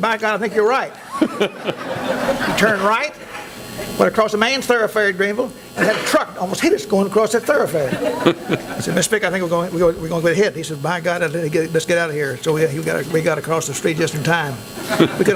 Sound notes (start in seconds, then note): 0.8 laughing